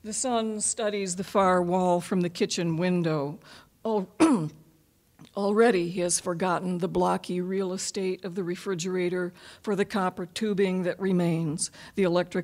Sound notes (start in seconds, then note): 4.1 coughing